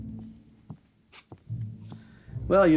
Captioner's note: footsteps